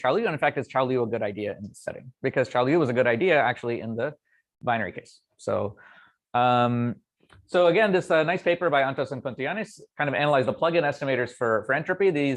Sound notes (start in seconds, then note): none